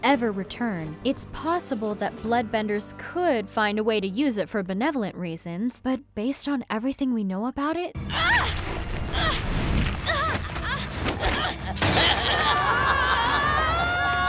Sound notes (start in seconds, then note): 9.0 groaning; 12.0 screaming